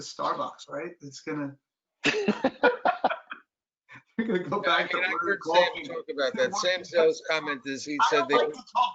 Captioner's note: laughter